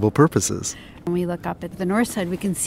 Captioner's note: voiceover